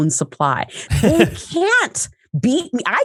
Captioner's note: laughs